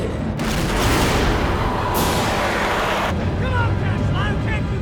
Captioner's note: explosion booms